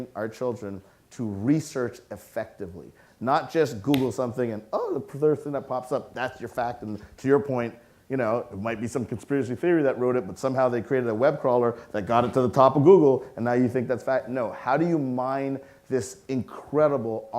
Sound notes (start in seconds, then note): none